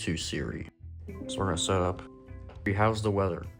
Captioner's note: Siri setup prompt sound